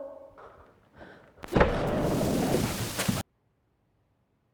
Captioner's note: loud bang